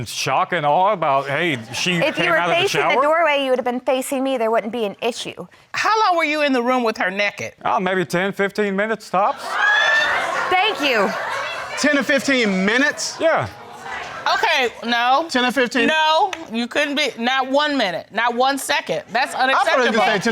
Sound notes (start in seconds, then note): 9.3 audience exclaims